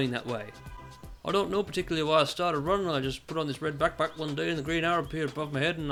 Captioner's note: vaguely Liverpudlian